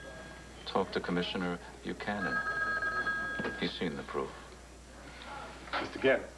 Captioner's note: telephone rings